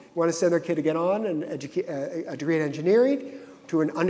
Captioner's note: none